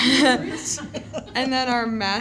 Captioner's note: laughter